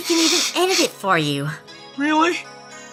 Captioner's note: sniffles